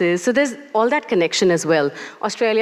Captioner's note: none